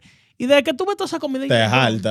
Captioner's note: speaking In Foreign Language